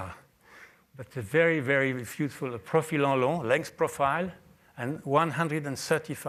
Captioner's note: french